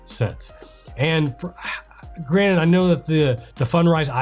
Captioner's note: sighs